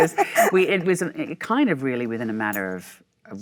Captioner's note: Michelle laughs